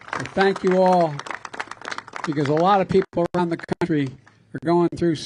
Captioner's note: applause